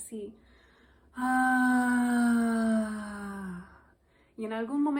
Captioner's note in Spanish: suspiro